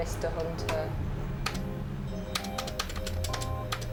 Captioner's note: tapping on keyboard